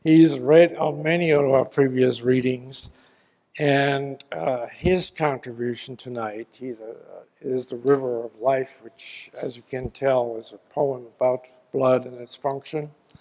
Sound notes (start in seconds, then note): none